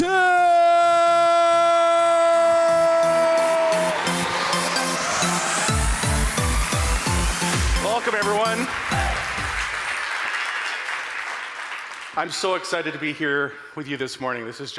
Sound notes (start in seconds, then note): 4.2 audience applauding; 4.2 upbeat music; 9.1 audience applauding